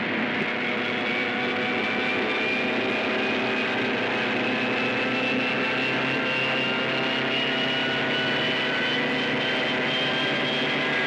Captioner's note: airplane rumbles; airplane roars & whines